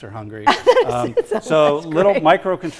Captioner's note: laughs